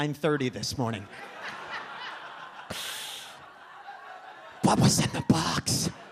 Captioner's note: audience laughs